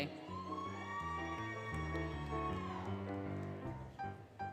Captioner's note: applause, Cheering, Music